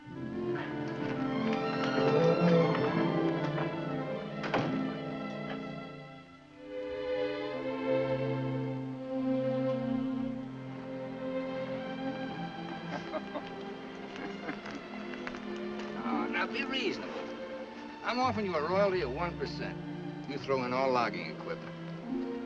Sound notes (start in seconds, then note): 0.3 uplifting music; 12.8 Jim laughs